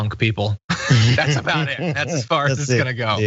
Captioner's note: laugh